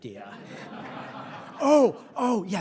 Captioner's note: audience laughing